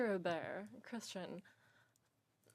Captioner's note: speaking in French